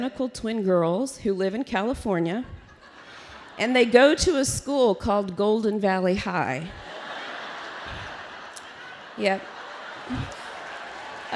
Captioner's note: laughter